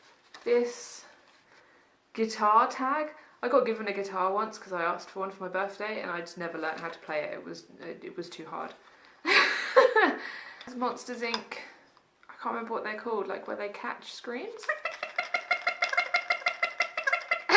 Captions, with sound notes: this guitar tag, I got given a guitar once because I asked for one for my birthday and I just never learned how to play it was it was too hard Monsters Inc I can't remember what they're called like where they catch screams *annoying toy sound*